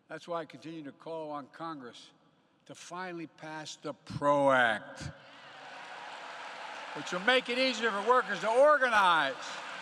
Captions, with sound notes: That's why I continue to call on Congress to finally pass the PRO Act -- (applause) -- which will make it easier for workers to organize.